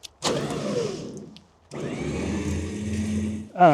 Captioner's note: trailer whirring